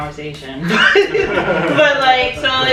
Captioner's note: laughter